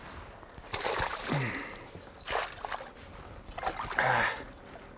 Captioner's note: splashing